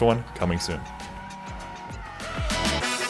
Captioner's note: car drifting